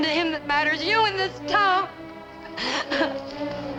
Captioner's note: crying